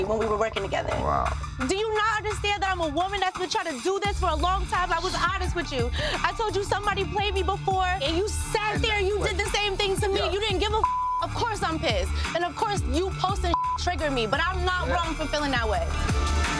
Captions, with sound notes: when we were working together. - Wow. - Do you not understand that I'm a woman that's been trying to do this for a long time. I was honest with you. I told you somebody played me before and you sat there and you did the same thing to me. You didn't give a (beep), of course I'm pissed and of course, you posting (beep) triggered me, but I'm not wrong for feeling that way.